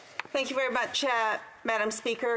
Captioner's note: speaking French